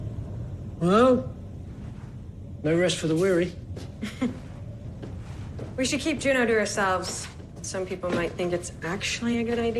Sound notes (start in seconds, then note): 4.0 chuckles